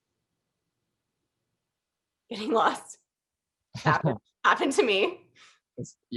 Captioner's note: laughter